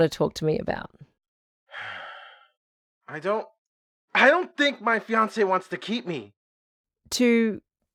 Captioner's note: long huffy sigh